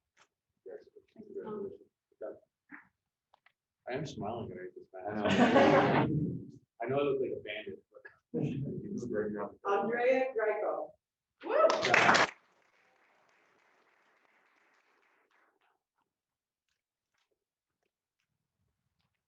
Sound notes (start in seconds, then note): 5.1 laughter; 11.5 applause